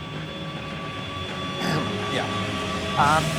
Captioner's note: clears throat